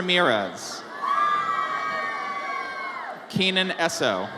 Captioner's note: audience cheers